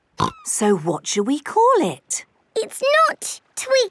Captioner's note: snorting